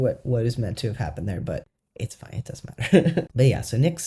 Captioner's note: laugh